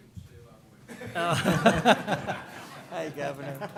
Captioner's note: laughter